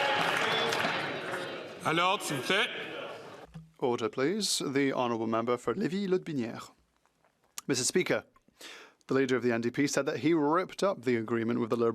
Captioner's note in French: applaudissements